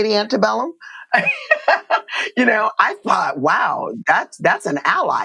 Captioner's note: laughter